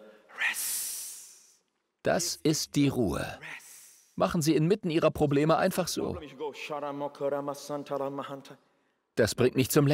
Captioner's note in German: betet in Zungen